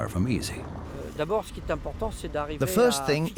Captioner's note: speaking French